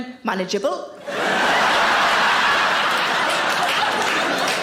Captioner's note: audience laughing